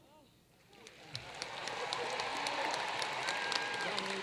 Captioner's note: applause